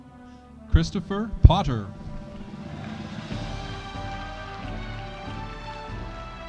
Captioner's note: audience applauding